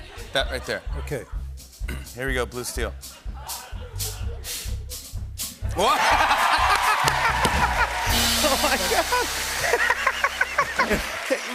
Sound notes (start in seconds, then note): 5.7 cheers and applause; 9.6 laughter